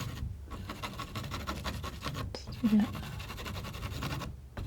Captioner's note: scratching